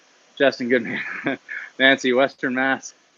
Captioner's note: laughs